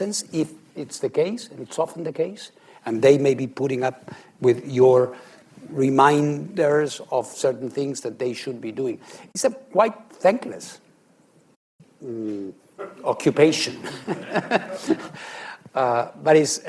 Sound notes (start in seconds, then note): 13.7 laughs